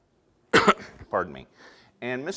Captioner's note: coughs